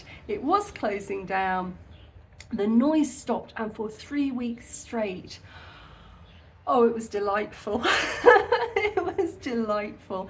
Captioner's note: laughing